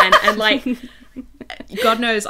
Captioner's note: hosts laugh